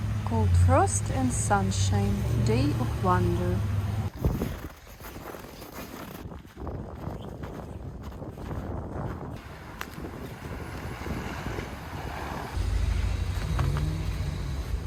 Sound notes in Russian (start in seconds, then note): 4.1 хруст снега